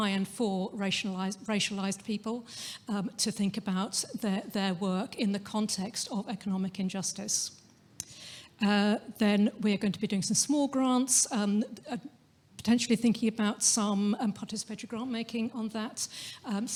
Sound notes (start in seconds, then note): none